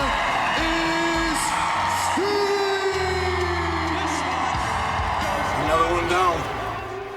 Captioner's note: crowd cheering